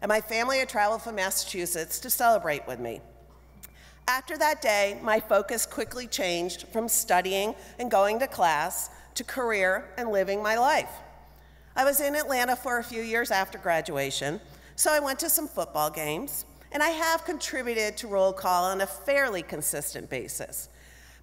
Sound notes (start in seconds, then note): none